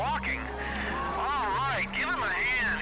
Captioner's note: people cheering